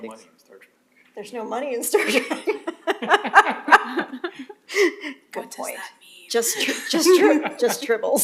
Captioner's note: laughter